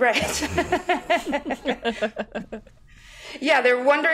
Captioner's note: all laughing